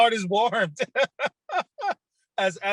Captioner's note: laughing